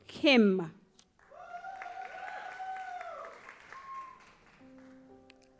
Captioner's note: audience applauds